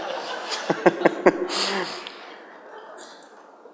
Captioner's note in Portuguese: Risos